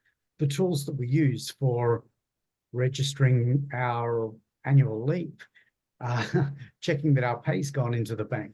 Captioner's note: laughs